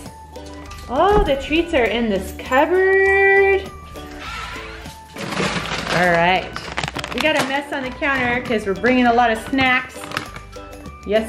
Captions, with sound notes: Oh, the treats are in this cupboard. (cupboard creaks) (bag crinkles) Alright, we got a mess on the counter cause we're bringing a lot of snacks.